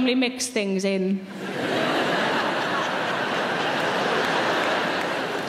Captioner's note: audience laughing